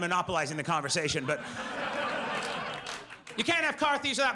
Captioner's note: audience laughs